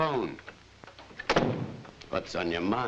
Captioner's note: door bangs shut